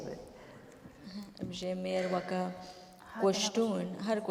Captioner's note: speaking kurdish